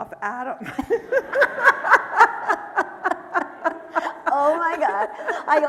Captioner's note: laughing; audience laughing